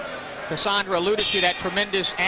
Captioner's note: bell rings to start Round 2